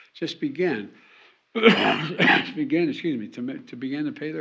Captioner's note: coughs